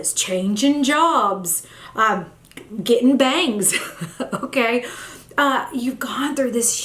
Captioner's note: chuckles